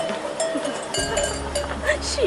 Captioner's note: laughs